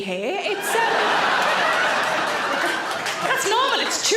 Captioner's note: audience laughs